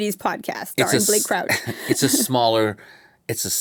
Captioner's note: chuckles